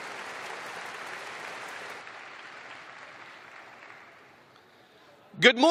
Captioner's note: applause